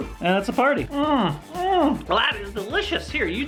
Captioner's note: gulps down drink